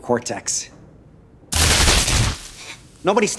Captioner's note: electricity crackling